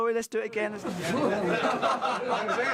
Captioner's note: all laughing